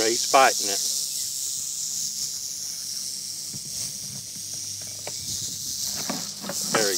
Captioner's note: snake rattling